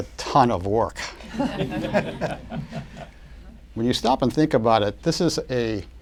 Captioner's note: laughter